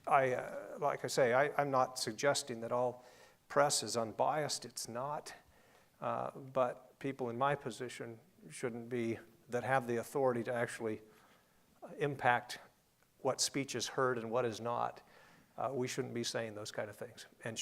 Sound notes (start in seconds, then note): none